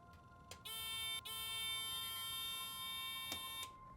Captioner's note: alarm beeping